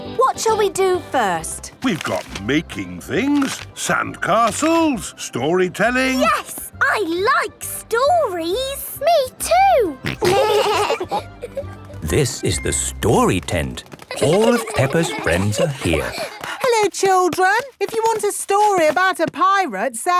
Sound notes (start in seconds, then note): 10.0 laughing; 15.4 excited babbling